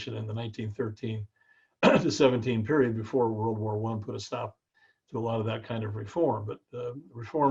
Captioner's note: cough